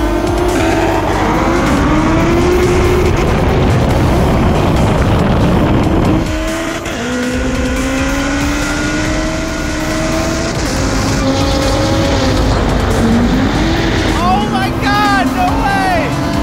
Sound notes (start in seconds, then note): 3.5 wind roars